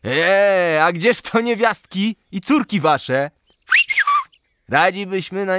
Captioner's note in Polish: gwizd